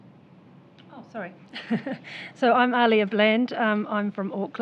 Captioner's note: laughs